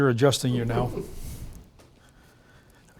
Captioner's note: laughter